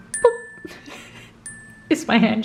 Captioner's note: speaker chuckling